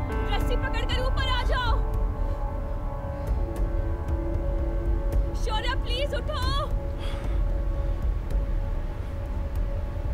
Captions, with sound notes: Take the rope and climb up. Shorya! Please get up. [Shorya gasps]